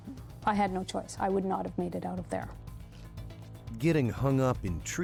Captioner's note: voiceover